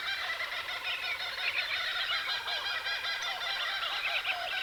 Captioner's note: bird sounds